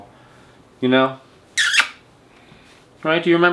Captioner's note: smooches